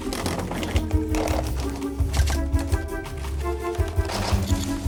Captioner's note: papers rustling